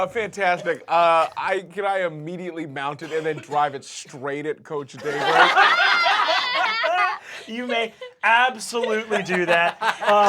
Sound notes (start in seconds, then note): 5.0 laughter